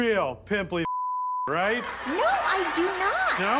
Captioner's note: audience laughs